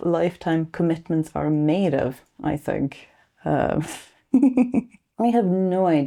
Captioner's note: self-conscious laugh